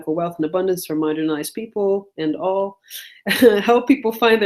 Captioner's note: laughs